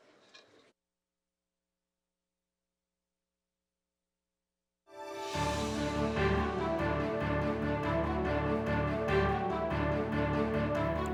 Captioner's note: cheers and applause